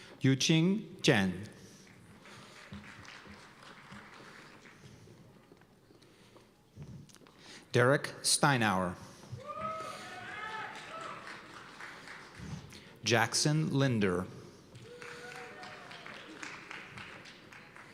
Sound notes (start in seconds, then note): 1.8 applause; 9.3 cheers and applause; 14.7 applause